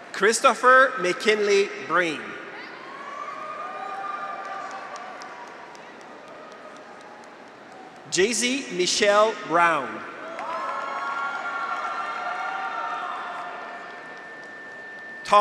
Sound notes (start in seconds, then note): 2.5 graduates cheer; 3.8 audience applauds; 10.1 graduates cheer; 10.3 audience applauds